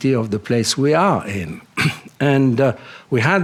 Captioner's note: clears throat